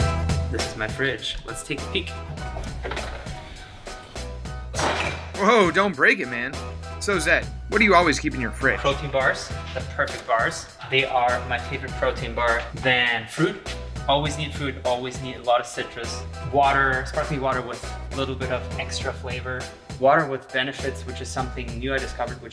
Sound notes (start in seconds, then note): 4.7 door crashes